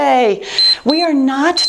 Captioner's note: timer beeps